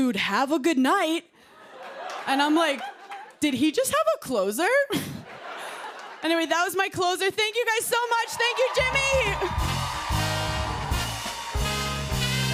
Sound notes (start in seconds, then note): 4.9 laughter; 8.1 cheers and applause